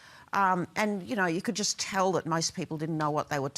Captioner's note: none